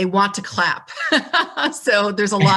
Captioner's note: laughs